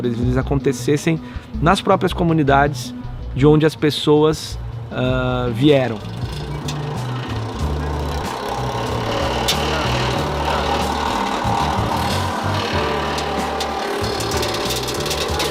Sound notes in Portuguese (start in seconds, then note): 8.6 Barulho da trituradora